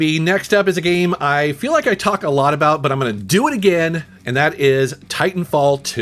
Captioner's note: none